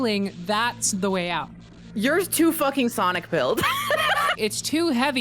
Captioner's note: laughs